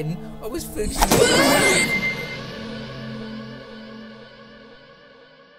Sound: shrieks in transdimensional awe

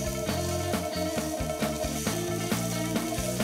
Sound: fast guitar music; food sizzling

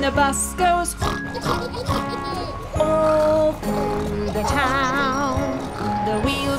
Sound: snort

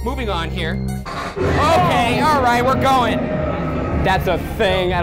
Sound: screaming

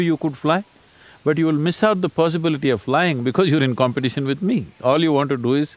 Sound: laughs

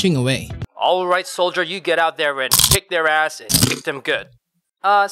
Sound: crunch

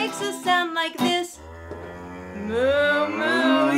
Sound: cow mooing

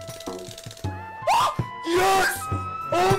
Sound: Linkus screams in excitement

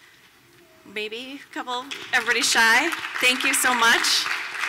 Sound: applause

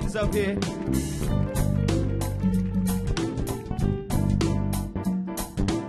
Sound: audience applauding

